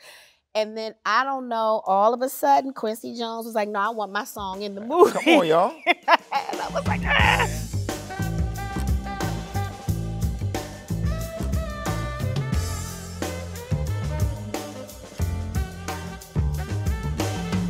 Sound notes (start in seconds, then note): 5.0 Taraji laughs; 8.3 upbeat jazz music